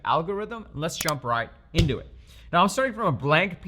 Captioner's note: button squeaking; button clicking